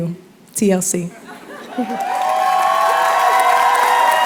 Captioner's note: cheers and applause